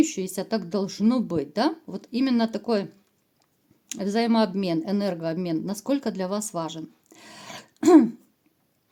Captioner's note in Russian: откашливается